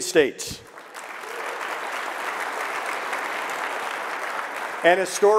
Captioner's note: audience clapping